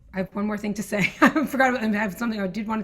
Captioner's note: laughs